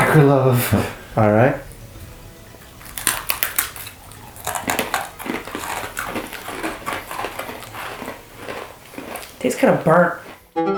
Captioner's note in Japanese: カリカリ